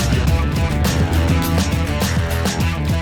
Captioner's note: laughs